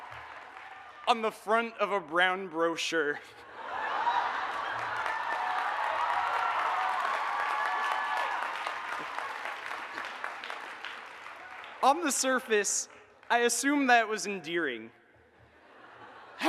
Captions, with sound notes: --on the front of a Brown brochure. [AUDIENCE LAUGHS, APPLAUDS, AND CHEERS] On the surface, I assume that was endearing.